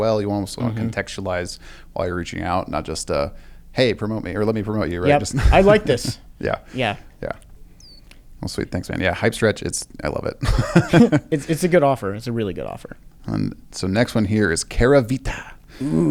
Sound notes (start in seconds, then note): 10.4 laughs